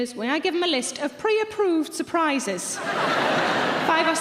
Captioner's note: audience laughing